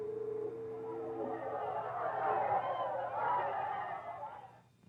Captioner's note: cheering